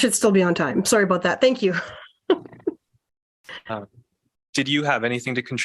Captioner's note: laughter